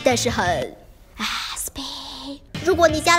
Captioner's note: whispers